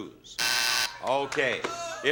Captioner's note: buzzer sounds